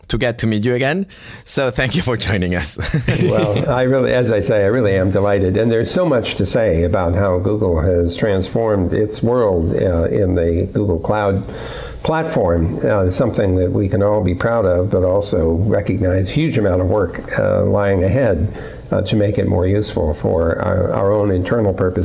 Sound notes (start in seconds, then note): 2.8 laughter